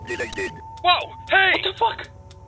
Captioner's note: trigger Clicking